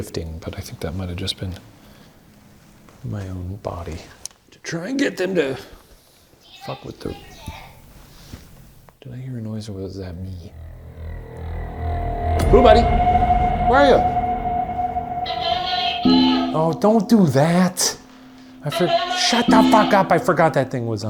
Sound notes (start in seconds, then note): 10.7 suspenseful music; 15.1 Boo buddy indistinctly chattering